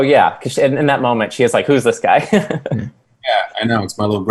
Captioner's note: laughs